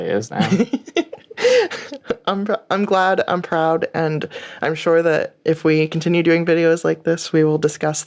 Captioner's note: laughter